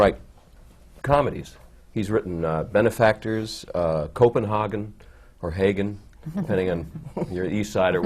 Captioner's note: different pronunciation